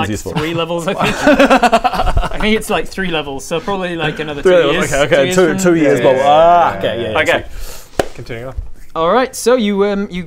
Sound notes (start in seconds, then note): 0.8 offensive laugh